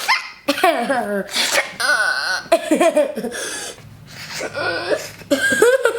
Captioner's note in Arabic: يصدر اصوات مضحكة